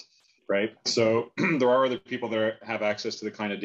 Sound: clears throat

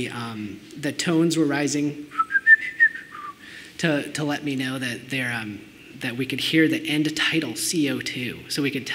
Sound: whistles

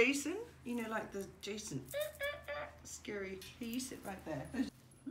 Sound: AHAHAH noise

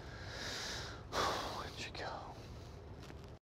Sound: sighs

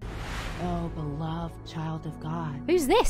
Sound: disembodied Voice

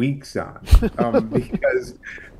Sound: background laughter

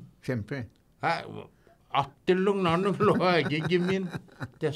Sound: laughing

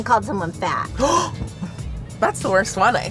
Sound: gasping

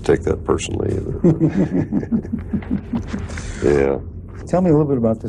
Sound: laughter

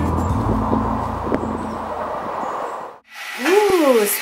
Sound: upbeat music; wind blowing

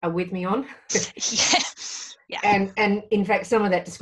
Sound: laughs

